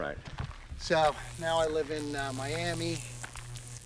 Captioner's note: electric buzzing